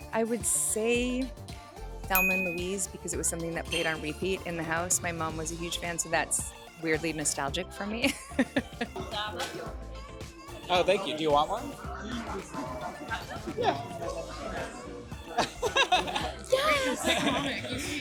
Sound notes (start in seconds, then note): 8.0 laughs; 8.7 upbeat instrumental music; 14.3 upbeat music continues; 15.3 interviewer laughs